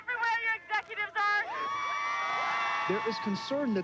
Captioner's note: crowd cheering